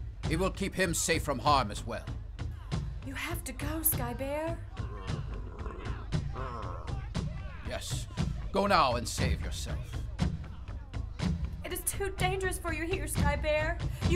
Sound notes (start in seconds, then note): 3.5 hunters talking in the distance; 4.7 bear grumbling